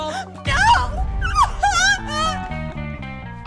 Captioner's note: wails